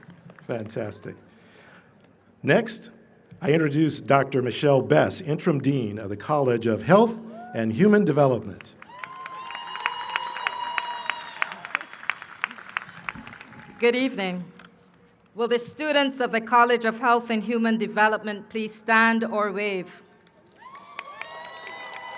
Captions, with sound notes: Next, I introduce Dr. Mechelle Best, Interim Dean of the College of Health and Human Development. [ Cheering and applause ] >> Good evening. Will the students of the College of Health and Human Development please stand or wave? [ Cheering and applause ]